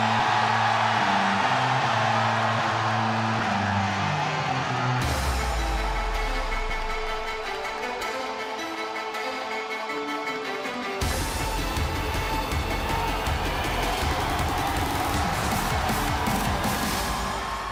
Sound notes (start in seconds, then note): 2.4 crowd cheering